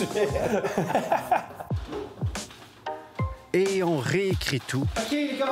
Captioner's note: laughs